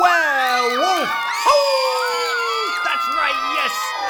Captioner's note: howls